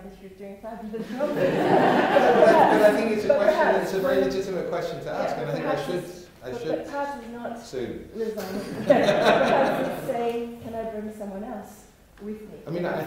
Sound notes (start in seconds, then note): 1.0 laughter; 6.5 laughter